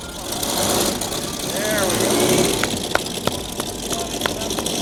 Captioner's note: engine starts